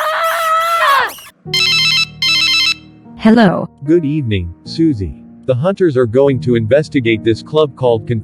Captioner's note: phone rings